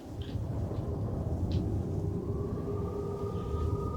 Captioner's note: thunder rolling